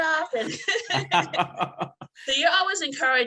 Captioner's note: laughs